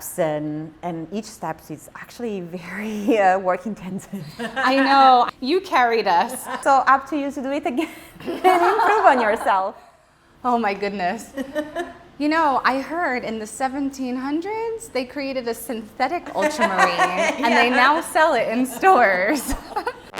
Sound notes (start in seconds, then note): 4.3 laughs; 8.2 both laughing; 11.4 chuckles; 19.9 lively music